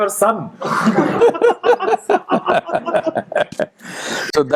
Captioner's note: laughter